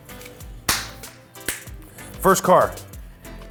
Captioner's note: slaps hands; snaps fingers